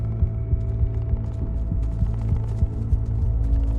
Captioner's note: threatening ambient music; footsteps on stony ground